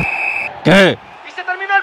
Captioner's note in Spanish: Silbato